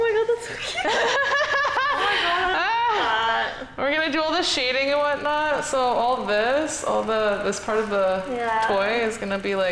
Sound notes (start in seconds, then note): 0.7 laughing